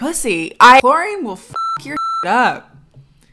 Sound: beep

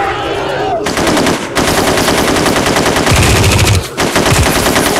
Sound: rapid gunfire

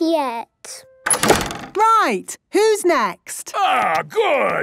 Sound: doors slamming

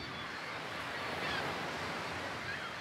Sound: screeching seagulls

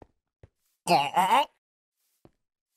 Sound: villager choking

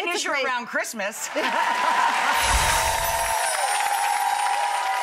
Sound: audience applauding

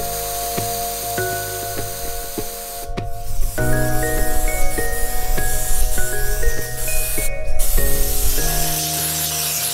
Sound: spraying noises

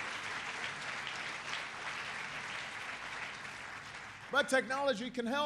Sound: applause

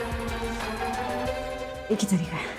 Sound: doorbell ringing

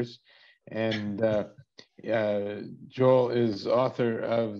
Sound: chuckles

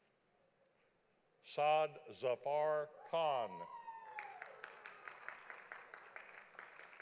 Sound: audience applauding

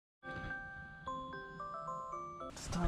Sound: alarm rings

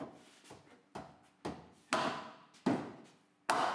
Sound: hammering

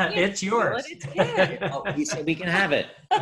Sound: laughs

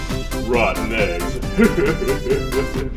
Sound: chuckles; upbeat music

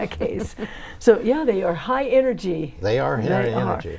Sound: laughing

